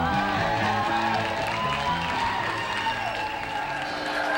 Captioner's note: crowd applauding